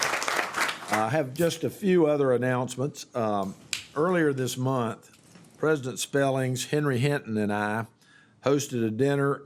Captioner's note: applause